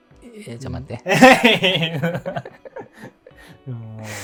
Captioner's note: laughing